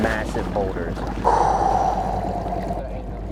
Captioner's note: exhales audibly